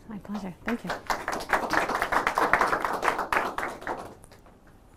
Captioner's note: applause